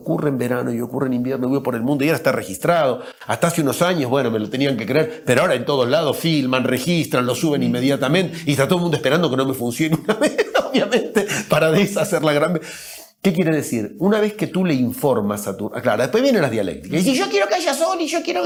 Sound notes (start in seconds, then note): 9.8 risas